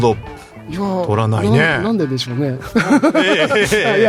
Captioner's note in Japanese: 笑い